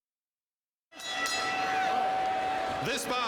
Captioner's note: bell ringing